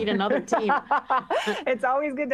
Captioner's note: laughter